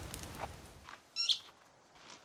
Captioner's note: munch-munch; squeak